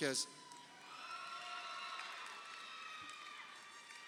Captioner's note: crowd cheering